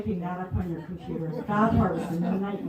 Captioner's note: laughter